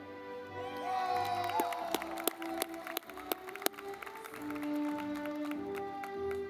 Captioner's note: audience clapping